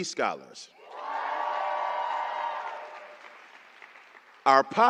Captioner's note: applause